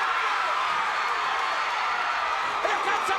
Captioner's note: crowd cheers